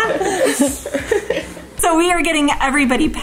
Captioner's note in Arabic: الكل يضحك